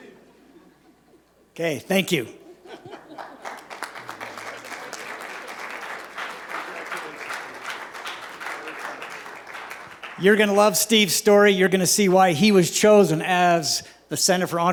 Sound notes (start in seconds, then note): 2.4 laughter; 3.1 applause